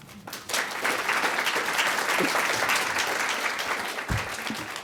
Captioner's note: audience applauds